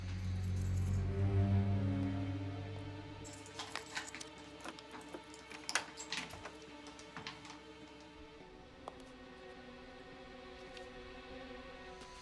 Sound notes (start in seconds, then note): 2.5 rattling; 8.6 tense music